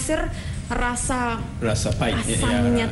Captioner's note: non-english speech